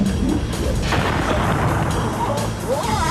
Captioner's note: yelling